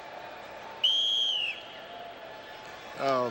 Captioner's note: whistle blows